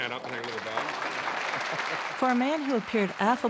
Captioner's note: applause